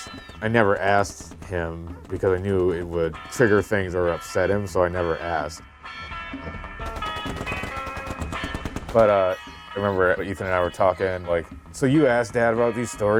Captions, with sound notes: I never asked him because I knew it would trigger things or upset him so I never asked. (rapid gunfire banging) But I remember Ethan and I were talking, like, so you asked dad about these stories?